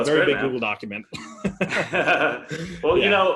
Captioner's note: laughing